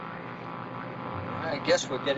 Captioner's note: geiger counter buzzing loudly